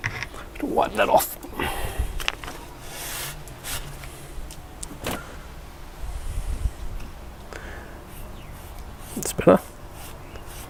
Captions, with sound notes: Better wipe that off. (scuffling) That's better.